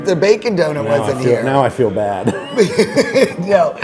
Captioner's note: laughs